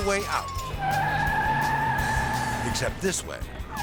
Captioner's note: tires screeching